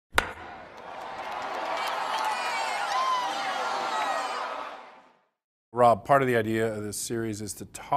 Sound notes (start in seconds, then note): 0.6 applause